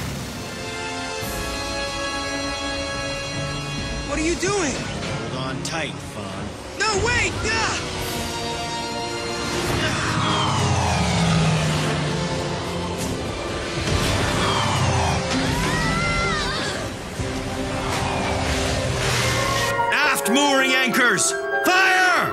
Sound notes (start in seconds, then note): 0.0 waterfall roaring; 0.1 dramatic synth music plays; 6.8 yells; 8.5 whooshing; 9.8 Van shouts; 13.5 thudding; 14.0 Hitomi & Merle scream; 17.3 propellers whirring